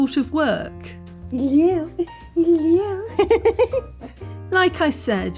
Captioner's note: laughing